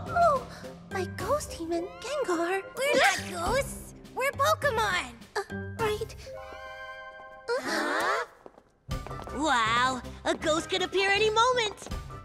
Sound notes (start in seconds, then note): 7.5 Hilary gasps